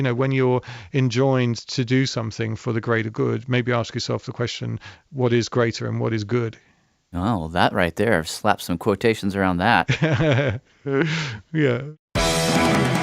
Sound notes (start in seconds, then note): 11.1 laughs